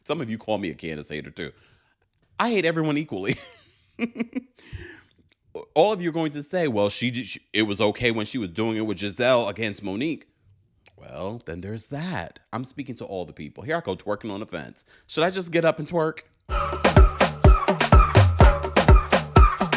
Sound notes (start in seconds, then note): 3.9 giggling; 16.5 upbeat drum music